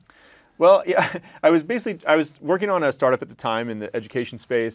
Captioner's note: laugh